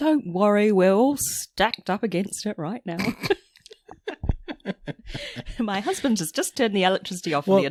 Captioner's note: laughs